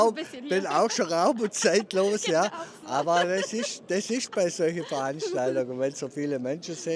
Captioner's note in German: gelächter